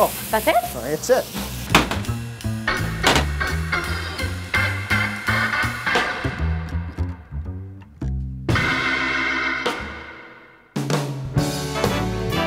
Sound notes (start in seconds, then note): 1.7 pan clanks; 10.8 big band jazz music